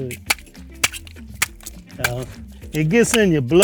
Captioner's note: tool clinking